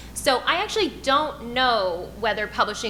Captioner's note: none